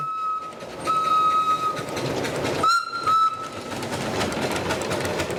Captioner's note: train whistles